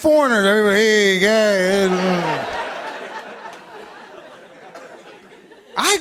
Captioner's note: laughter